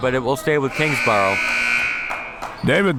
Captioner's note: buzzer sounding